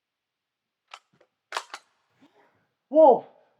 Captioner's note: gun clicks